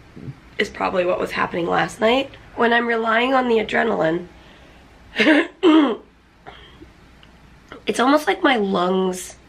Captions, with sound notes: is probably what was happening last night. When I'm relying on the adrenaline... [clears throat] It's almost like my lungs...